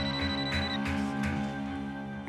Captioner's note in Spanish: Suena el celular